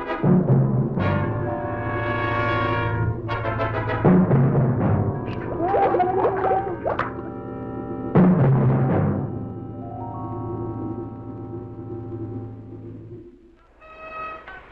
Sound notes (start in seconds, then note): 2.9 Jack groaning; 10.8 upbeat instrumental music